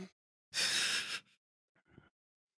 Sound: breathy laugh

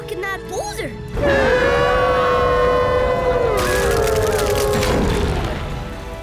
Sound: howling

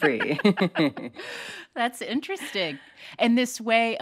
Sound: laughter

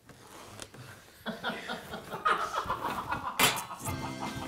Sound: laughing; upbeat music

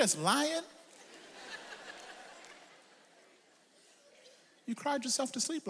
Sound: audience laughs

